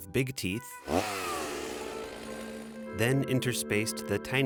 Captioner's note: chainsaw revs